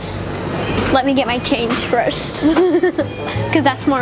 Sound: laughs

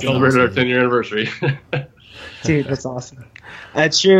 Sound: laughs

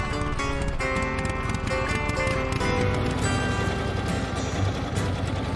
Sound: engine rumbles

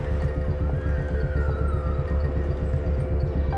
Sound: children shrieking

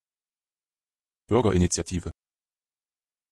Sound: fast Pronunciation

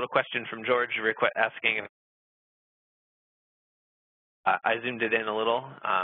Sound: audio cuts out

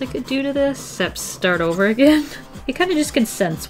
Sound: laughs

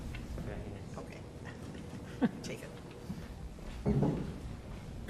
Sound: laughter

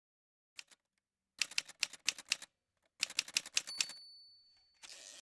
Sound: typewriter sounds

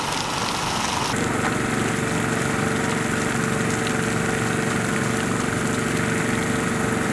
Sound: heavy rain pouring down

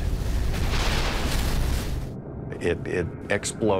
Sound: exploding

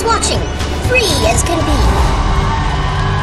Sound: cheering

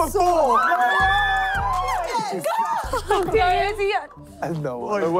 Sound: screaming

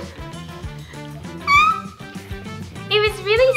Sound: laughs

